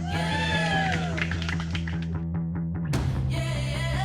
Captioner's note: crowd cheering